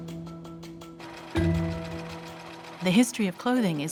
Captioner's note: sewing machine whirring